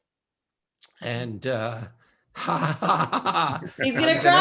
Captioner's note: laughs